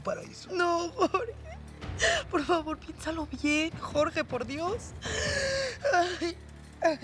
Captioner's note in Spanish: Sollozos